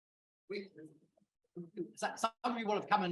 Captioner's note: speaking faintly